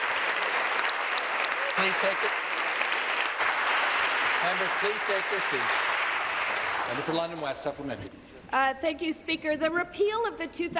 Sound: applause

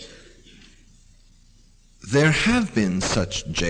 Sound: pause

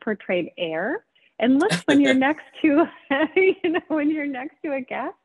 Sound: both laughing

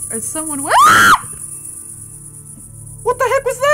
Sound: screams

